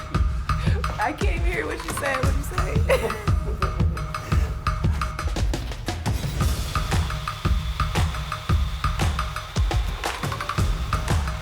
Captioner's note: laughs